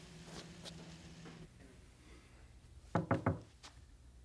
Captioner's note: knocking